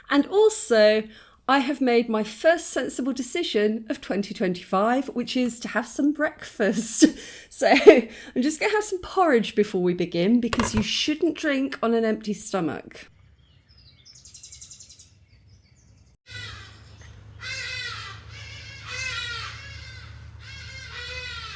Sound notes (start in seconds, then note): 13.8 birdsong; 17.3 very loud hadada calls